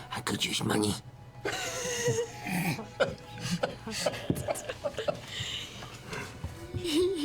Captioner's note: others laugh